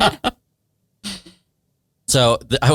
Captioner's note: all laugh